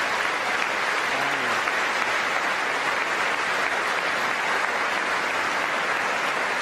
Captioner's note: applause